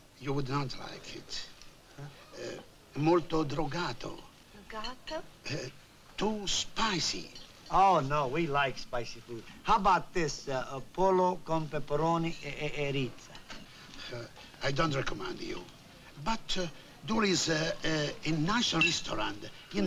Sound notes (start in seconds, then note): 3.0 speaking italian; 4.6 italian; 11.7 speaking italian